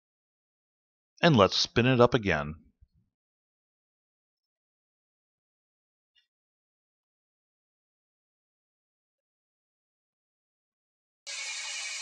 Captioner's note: engine & wheel spinning noise